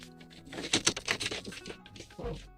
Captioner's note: door clanks